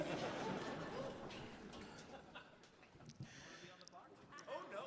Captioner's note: audience laughing